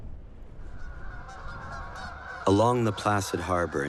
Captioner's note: geese honking